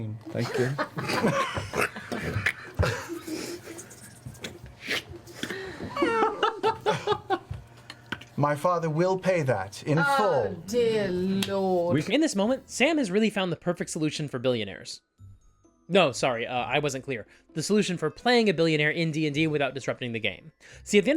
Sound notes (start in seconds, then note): 3.2 Sound of Doty scribbling out a check and tearing it out of a checkbook